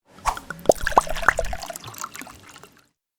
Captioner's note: liquid pouring